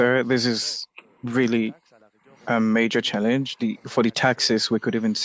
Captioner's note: speaking French